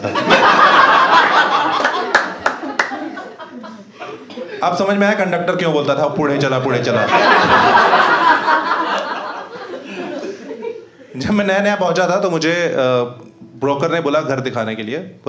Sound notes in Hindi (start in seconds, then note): 0.0 हँसना; 7.0 हँसना